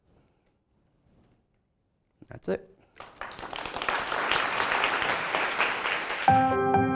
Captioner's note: applause